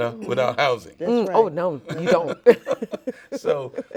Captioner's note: laughs